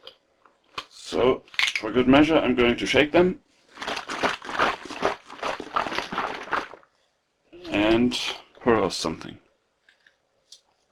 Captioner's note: shaking of Juices